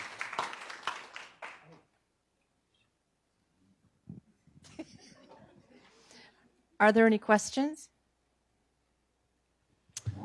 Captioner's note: applause